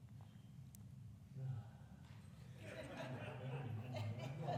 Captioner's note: non-english speech